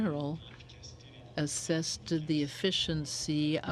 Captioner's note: speaking in french